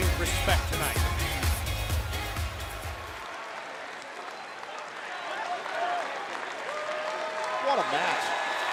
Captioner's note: crowd cheering